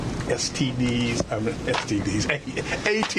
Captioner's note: laughter